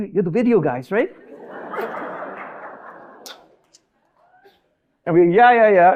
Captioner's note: audience laughing